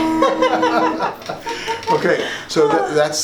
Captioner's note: laughter